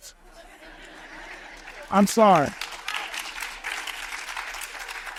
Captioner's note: audience applauds